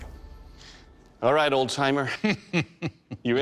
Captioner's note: chuckles